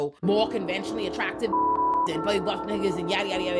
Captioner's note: beep